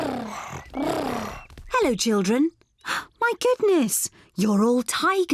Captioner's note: gasps